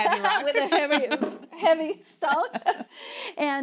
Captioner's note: laughing